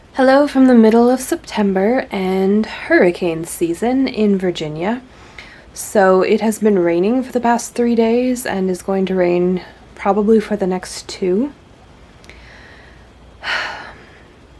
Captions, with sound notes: Hello from the middle of September, and hurricane season in Virginia. So it has been raining for the past three days, and is going to rain probably for the next two. *sigh*